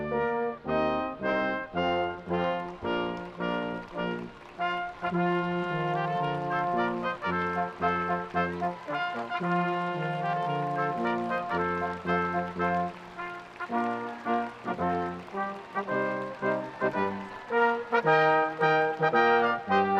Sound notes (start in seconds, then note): 0.2 orchestral music continues; 3.5 audience applauding; 16.6 audience applauding